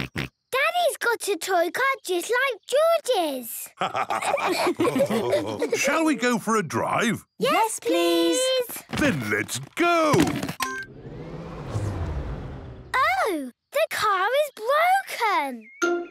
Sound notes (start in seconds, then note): 3.8 all laughing; 10.6 car chimes; 10.7 whirring, whirring stops